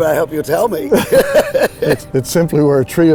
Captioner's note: laughing